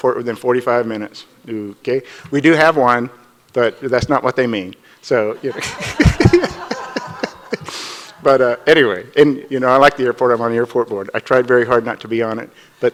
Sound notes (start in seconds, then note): 5.4 audience laughs; 5.4 laughs